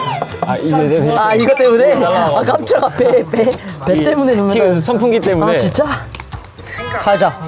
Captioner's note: fan blowing